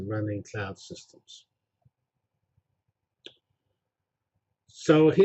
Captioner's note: pause